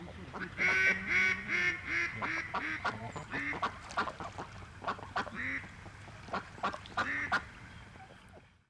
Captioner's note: duck noise